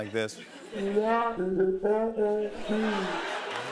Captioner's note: "Peanuts" teacher warbling; laughter and applause